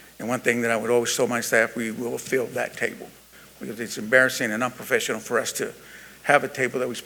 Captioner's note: none